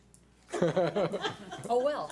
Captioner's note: and board members laugh